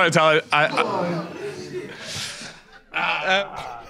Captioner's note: audience groans